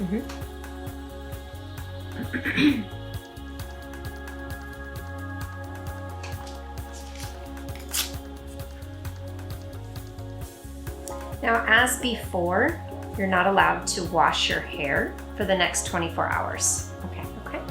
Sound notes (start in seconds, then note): 2.2 clears throat; 5.8 soothing electronic music